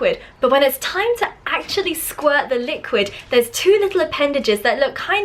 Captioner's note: none